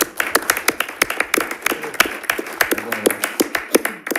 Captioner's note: audience applauds